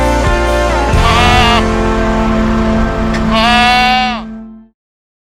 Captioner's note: goat bleats